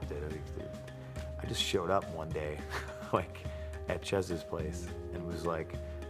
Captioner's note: laugh